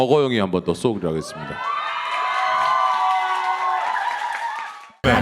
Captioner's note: applause and cheers